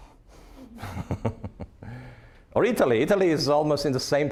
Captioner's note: laughing